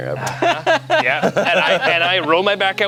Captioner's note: laughs